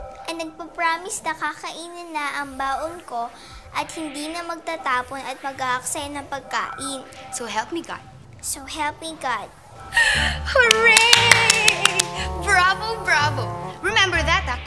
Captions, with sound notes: ...promise to eat my lunch and not throw it away and waste food. -So help me God. -So help me God. [gasps] Hooray! Bravo! Bravo! Remember that, okay?